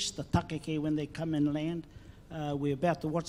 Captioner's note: speaks in foreign language